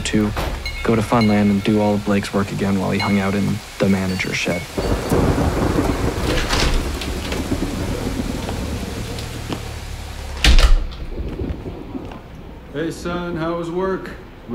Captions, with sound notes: to go to Funland and do all of Blake's work again while he hung out in the manager's shed. [thunder and pouring rain] [door opens and shuts] -Hey, son. How was work?